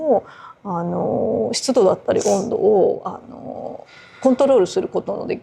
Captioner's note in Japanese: 鼻息